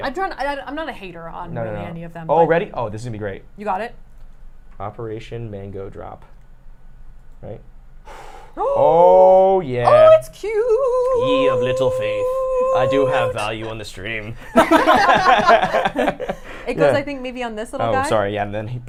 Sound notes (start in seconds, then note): 8.1 gasping; 14.2 laughs